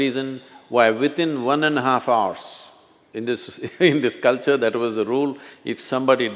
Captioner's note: laughs